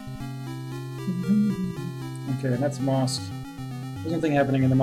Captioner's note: humming along